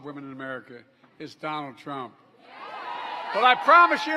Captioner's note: applause